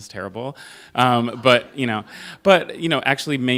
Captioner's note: laughter